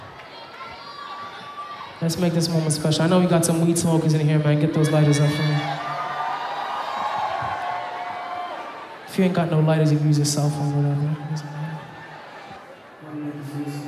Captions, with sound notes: Let's make this moment special. I know we got some weed smokers in here, man, get those lighters up for me. (audience applauding) If you ain't got no lighters, you can use a cell phone or whatever.